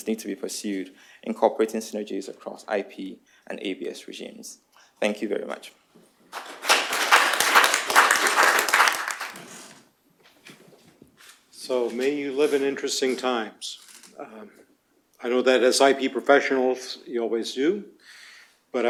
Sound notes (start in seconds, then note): 6.3 applause